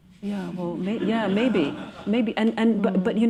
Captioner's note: laughter